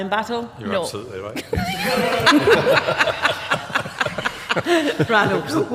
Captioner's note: laughter